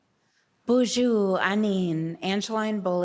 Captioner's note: speaking Ojibwe